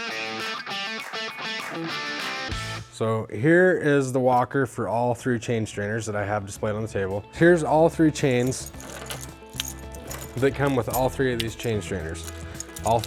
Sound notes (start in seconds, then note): 8.0 chains clinking